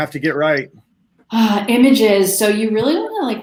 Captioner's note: sighs